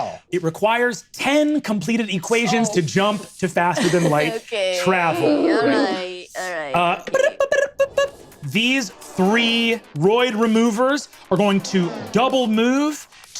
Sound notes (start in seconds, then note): 7.2 vocalizes beeps